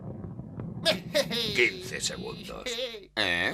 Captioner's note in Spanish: ríe